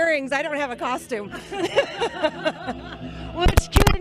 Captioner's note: laughter